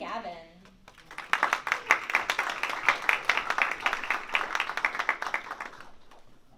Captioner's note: applause